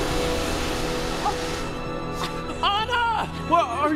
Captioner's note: Anna grunting